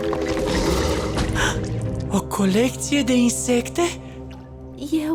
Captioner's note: gasps